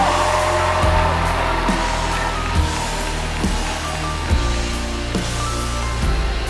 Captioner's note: audience continues cheering; cheerful music continues